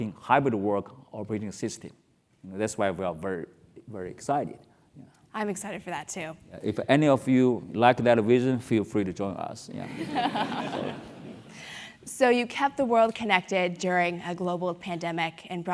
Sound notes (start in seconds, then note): 10.3 laugh